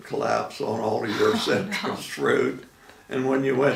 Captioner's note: laughing